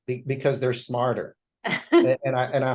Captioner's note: laughs